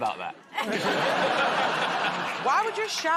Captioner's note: laughter